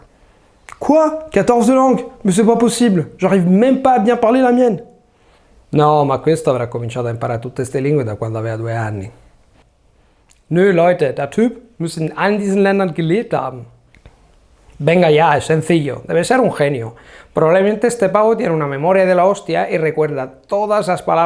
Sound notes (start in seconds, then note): 10.3 Italian; 15.3 German